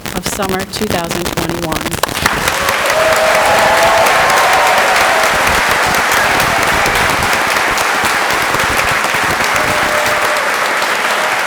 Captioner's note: applause and cheering